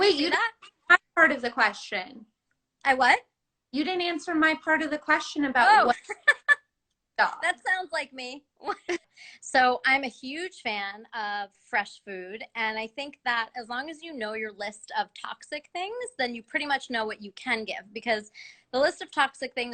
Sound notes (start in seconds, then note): 5.9 laughter